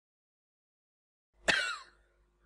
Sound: gay cough

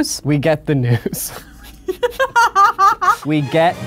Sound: both laugh

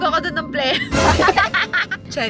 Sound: laugh

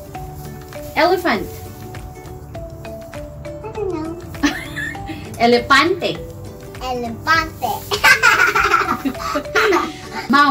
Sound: laughing sound

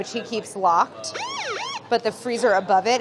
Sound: police sirens wailing

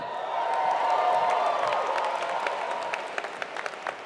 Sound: applause

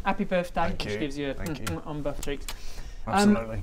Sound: mwah mwah

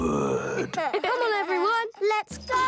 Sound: laughing

